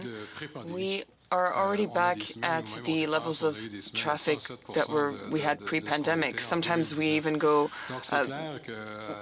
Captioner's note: speaking French